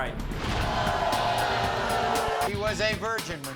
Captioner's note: crowd booing